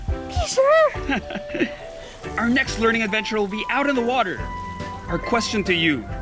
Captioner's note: laughs